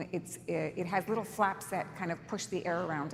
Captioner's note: none